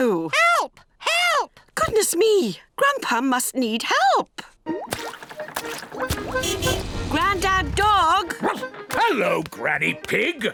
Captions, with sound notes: -Help! Help! -Goodness me, Grandpa must need help! -(CAR HORN HONKING) -Granddad Dog? (BARKS) Hello, Granny Pig.